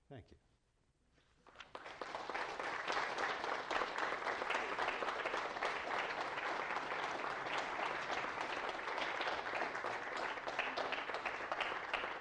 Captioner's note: applause